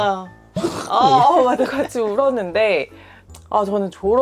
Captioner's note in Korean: 흐흑